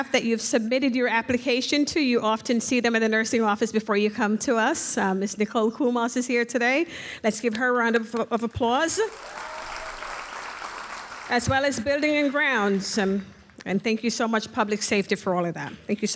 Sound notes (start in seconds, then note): 8.9 audience cheers and applauds